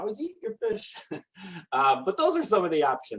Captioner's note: laughing